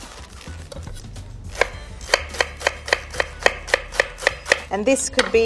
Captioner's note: leaves creaking; knife tapping against wooden board